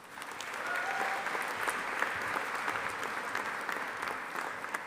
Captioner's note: audience applauding